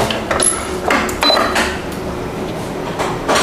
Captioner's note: press machine sound; beep sound; press machine sound